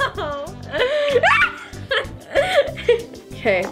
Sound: yelps

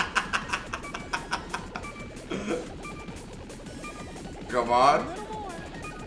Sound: laugh

